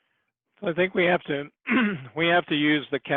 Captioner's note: clears throat